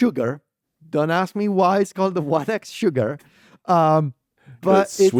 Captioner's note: laughs